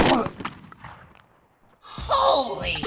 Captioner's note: gun fire